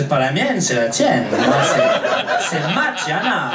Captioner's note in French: rires public